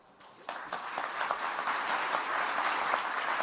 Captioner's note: applause